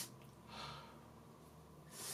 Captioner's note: exhale